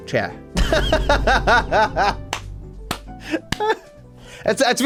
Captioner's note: laughs